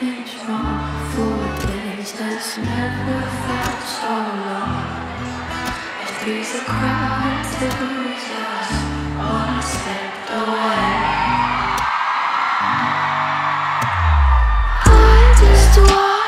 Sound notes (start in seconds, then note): 11.5 cheering